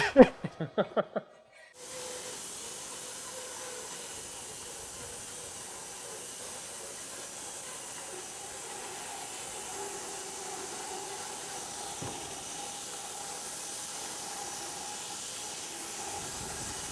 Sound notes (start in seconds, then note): 0.0 both laughing; 9.6 saw blade whirring